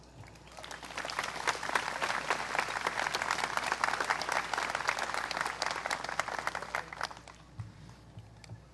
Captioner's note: applause